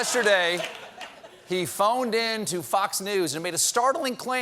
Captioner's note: laughter